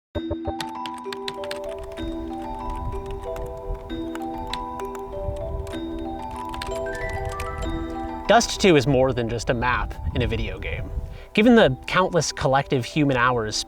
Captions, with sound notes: (tranquil enchanting music) (keyboard clacking) - Dust2 is more than just a map in a video game. Given the countless collective human hours